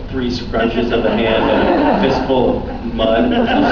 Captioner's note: laughs